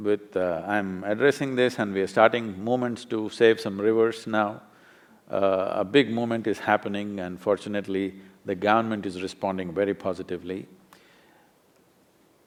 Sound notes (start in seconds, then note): none